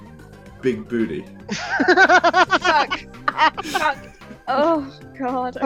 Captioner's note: laughter